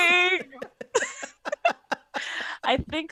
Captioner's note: laughter